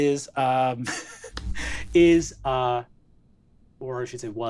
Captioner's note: chuckles